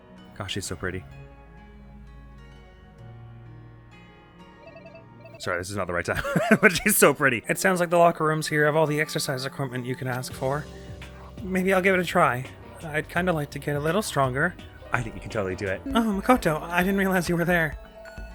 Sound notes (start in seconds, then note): 6.1 chuckles; 14.8 Ultimate Sub voice